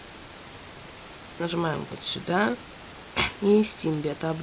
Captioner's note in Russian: кашель